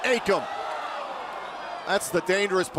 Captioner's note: crowd cheering